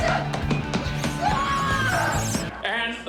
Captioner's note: yells